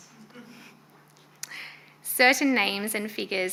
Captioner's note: audience giggling